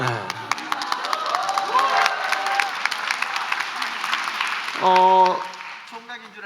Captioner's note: applause and cheers